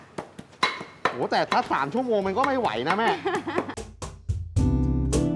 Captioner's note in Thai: เสียงหัวเราะ